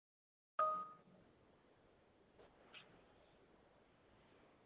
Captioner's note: computer beeps